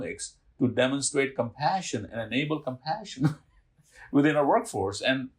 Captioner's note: chuckling